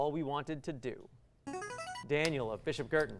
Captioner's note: buzzer